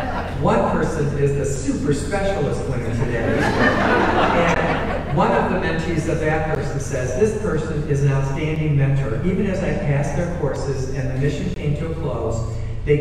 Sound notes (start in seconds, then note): 2.8 audience laughing